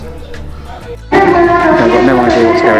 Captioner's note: announcement in foreign language